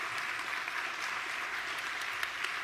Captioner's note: applause